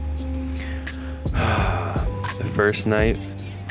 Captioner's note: sighs